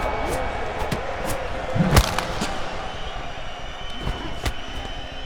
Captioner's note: crowd cheering; hit impact sounds